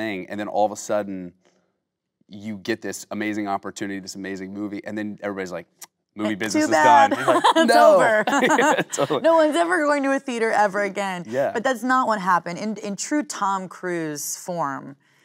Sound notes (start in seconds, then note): 6.3 laughing; 6.6 both laughing